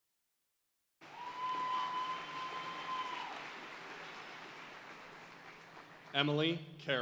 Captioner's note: audience cheering and applauding